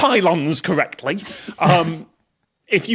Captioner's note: guests snickering